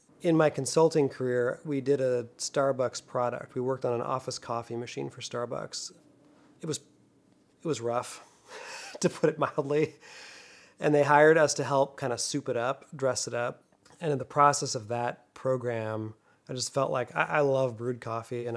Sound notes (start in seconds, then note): 8.7 chuckles